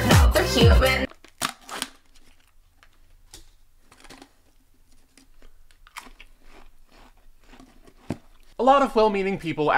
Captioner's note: opens pringles